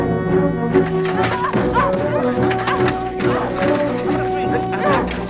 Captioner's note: Hundra grunting